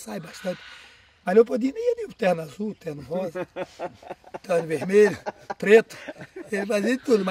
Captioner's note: laughter